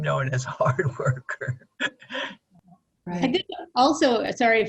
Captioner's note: chuckles